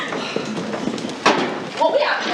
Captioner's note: laughing